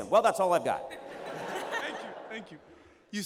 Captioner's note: laughter